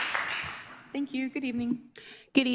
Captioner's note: applause